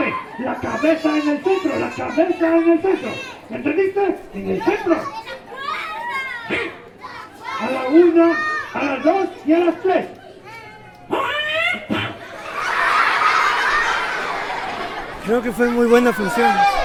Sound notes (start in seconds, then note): 10.9 puppet voice; 12.7 laughing